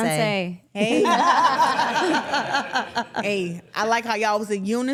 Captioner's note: everyone laughing